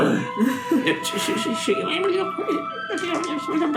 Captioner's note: snarls